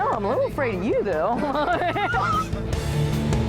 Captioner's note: both laugh